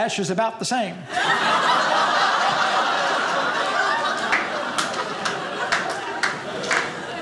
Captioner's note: audience laughing